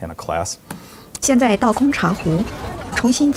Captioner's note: speaking mandarin